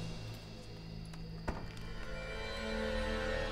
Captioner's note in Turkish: Kapı kapanma sesi